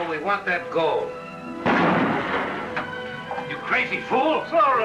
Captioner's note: gunshot